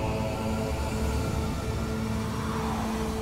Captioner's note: howling wind